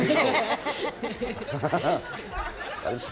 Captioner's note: everyone laughs